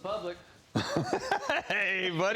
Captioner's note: laughs